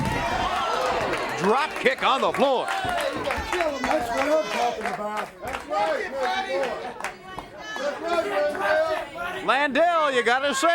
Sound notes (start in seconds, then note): 0.7 crowd cheering; 3.1 crowd chatter; 4.3 crowd cheering